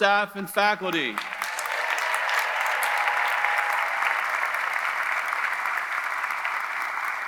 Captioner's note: audience applauding; audience cheering